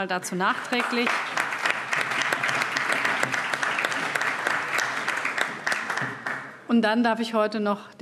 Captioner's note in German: Vereinzelter Beifall AfD und Freie Demokraten